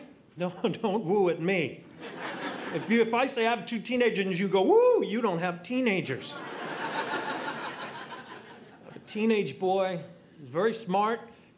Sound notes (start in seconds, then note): 6.3 audience laughing